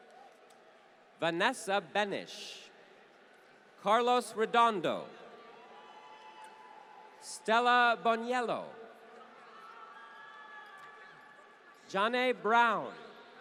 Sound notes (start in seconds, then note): 5.8 applause